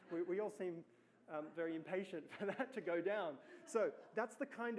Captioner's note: laughs